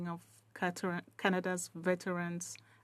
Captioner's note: speaking French